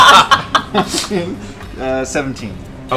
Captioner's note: laughter